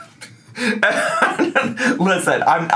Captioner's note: laughs